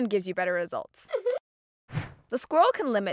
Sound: squirrel chuckles

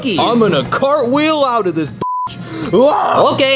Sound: beep; yelling

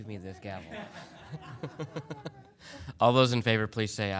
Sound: people laughing

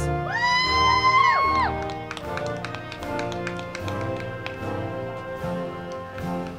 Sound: band music; crowd clapping and cheering

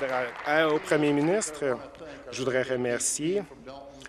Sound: applause

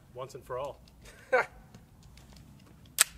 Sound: laughs; guns cock

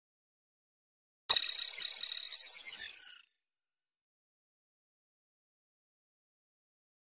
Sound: sound of robot

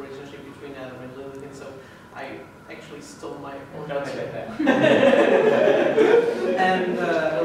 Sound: laughs

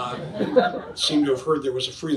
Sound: audience laughs

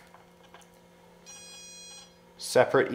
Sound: electrical beeping

